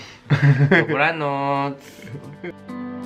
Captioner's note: in Polish